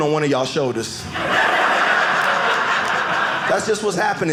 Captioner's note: audience laughing